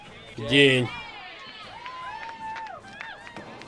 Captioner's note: people cheering